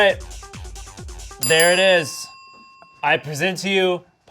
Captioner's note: bell dinging